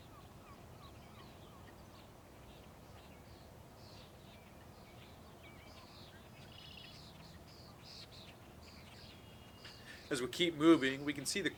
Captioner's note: birds chirping